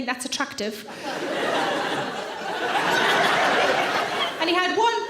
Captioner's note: audience laughs